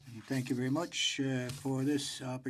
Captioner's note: speaking in French